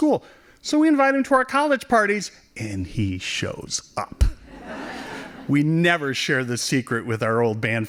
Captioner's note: laughing